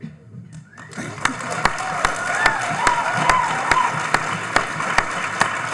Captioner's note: audience applauding